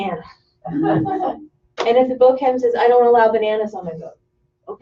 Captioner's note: laughter